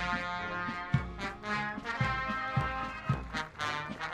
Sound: audience applauding

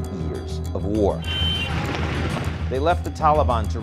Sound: plane engine roars

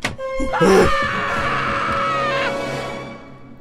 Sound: screaming

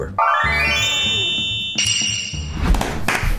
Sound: bells jingling; boys clapping

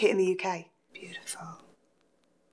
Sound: whispers

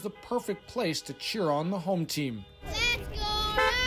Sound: horns honking

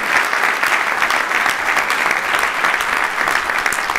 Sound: applause

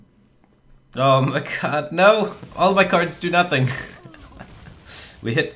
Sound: laughs

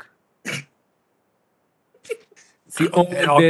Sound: laughter

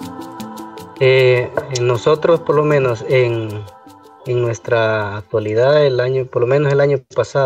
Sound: foreign Language

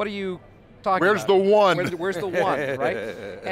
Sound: laughs

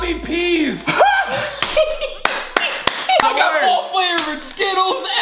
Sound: laughing

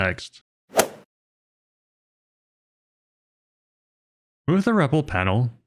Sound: golf ball hit sound effect

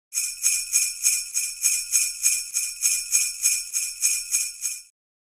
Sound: bells ringing

